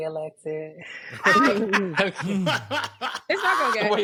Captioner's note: laughing